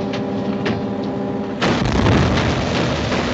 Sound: explosion

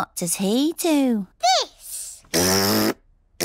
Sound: blows raspberry

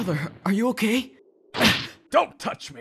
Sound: TRUNKS gasps

